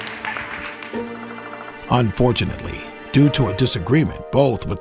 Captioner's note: voiceover